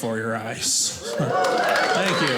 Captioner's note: audience cheers